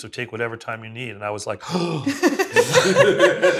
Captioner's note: gasps